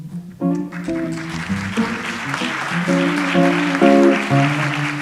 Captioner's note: audience applauds